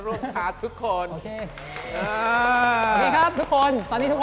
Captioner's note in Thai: เสียงปรบมือ